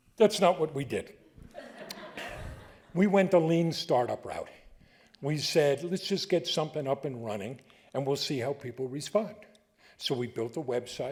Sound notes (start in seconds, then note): 1.5 audience laughing